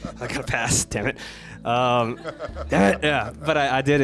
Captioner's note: crowd laughs